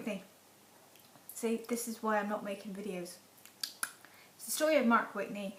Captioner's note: clicks tongue